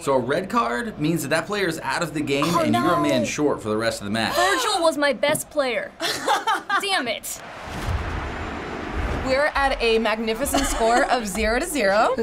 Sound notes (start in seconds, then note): 6.0 laughing; 7.4 spectators cheering